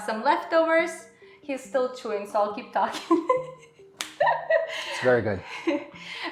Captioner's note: laughs